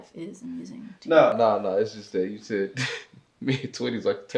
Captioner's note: giggles